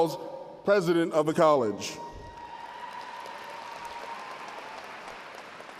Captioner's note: applause